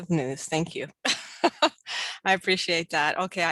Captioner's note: laughs